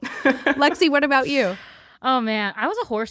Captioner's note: chuckles